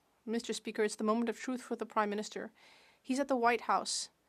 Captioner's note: speaking French